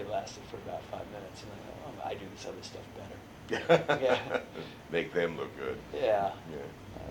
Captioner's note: laughs